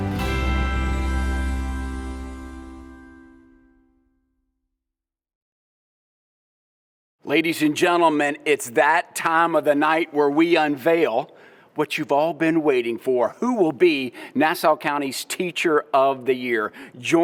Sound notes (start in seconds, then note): none